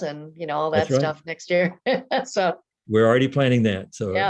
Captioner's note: laughs